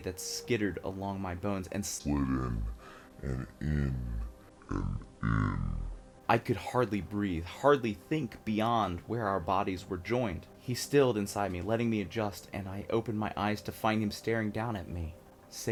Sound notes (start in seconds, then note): 2.2 very deep voice, progressively slowed down